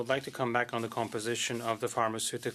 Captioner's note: speaking French